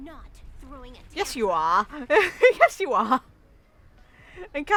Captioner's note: laughs